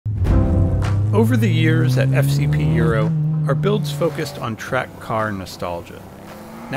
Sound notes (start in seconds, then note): 0.0 car engine roaring; 0.1 bright music